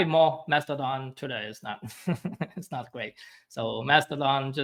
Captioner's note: chuckles